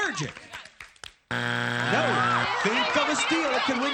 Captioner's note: buzzer